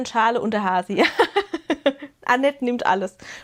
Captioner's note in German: gelächter